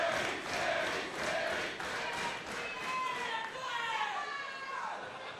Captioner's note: crowd cheering; crowd chatter